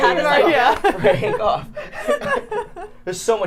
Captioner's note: people laughing